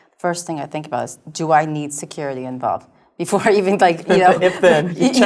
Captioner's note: laugh